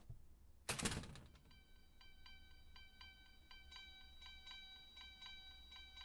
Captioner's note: door thuds